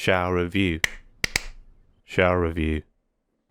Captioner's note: clap Clap Clap